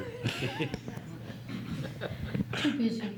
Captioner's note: laughs